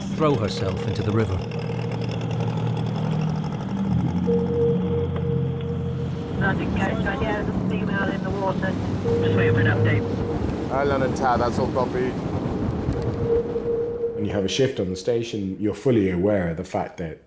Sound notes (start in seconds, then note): 0.5 motor whirring; 1.8 mysterious music; 6.5 voice On Radio